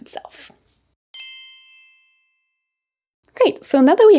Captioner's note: bell dings